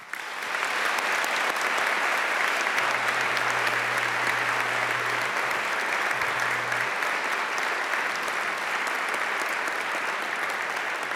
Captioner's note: applause